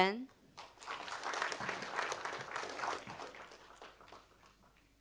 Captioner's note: audience applauding